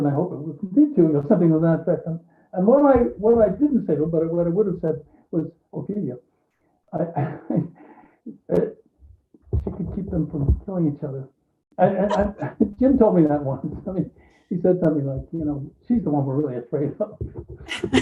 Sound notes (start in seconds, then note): 7.0 laughs